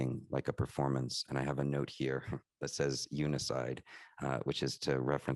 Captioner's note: chuckles